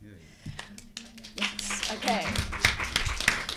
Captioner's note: audience applauding